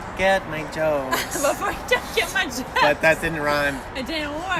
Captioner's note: laughing